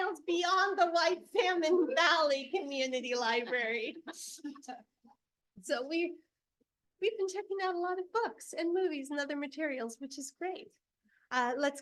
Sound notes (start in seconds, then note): 3.5 board members laughing